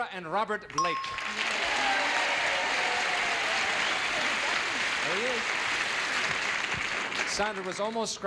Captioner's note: audience applauding